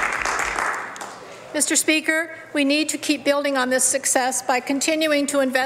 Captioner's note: applause